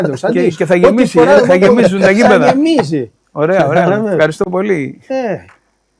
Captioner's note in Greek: γέλια